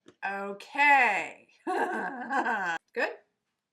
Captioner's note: silly laugh